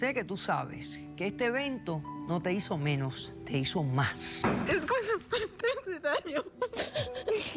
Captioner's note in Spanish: sollozos